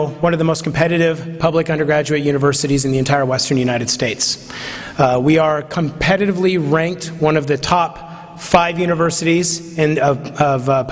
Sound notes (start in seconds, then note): none